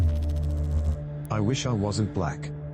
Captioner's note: electrical noise